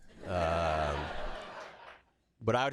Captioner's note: laughter